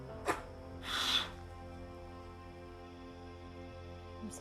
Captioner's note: crying